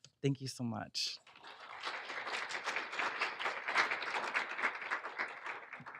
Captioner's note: applauding